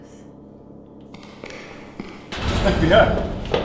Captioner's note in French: Des pas au loin